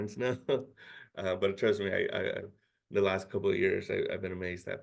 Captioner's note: chuckles